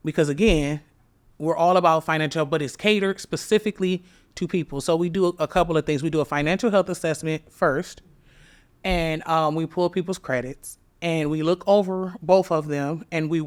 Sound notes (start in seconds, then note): none